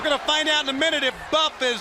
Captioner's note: crowd cheering